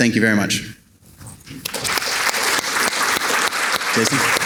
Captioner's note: audience clapping